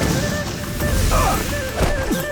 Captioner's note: grunting